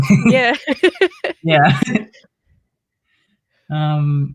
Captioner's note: laughs